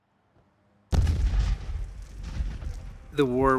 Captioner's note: ballistics exploding